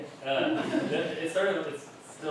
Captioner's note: laughter